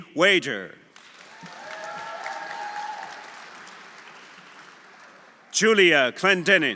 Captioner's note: audience applauding; audience cheering